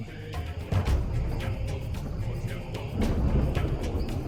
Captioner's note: thunder claps